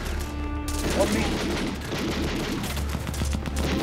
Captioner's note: guns firing; ominous music